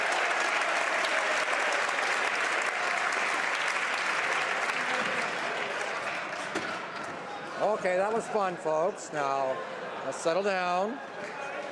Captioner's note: some Applause